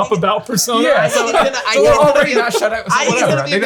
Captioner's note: all laugh